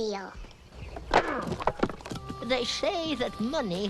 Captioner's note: wood cracks; Eli grunts